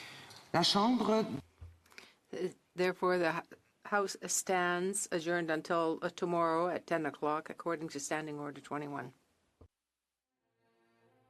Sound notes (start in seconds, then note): 5.8 speaking in French